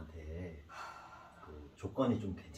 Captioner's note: deep sigh